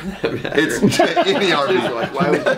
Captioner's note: laughs loudly